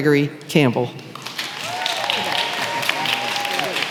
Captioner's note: applause